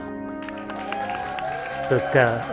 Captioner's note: crowd applauding